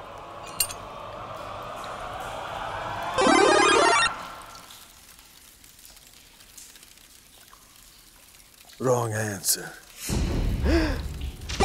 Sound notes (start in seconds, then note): 3.1 mario power up effect; 10.6 gasps; 11.4 mario shooting sound effect